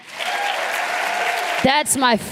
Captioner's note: applause